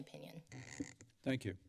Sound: mic squeaks

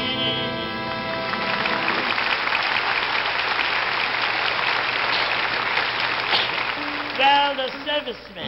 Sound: audience applauding

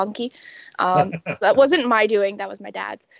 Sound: laughing

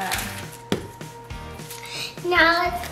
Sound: dough drops

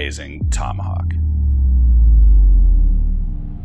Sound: intense rumbling

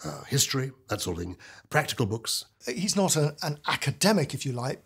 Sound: none

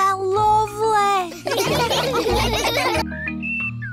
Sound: all laugh

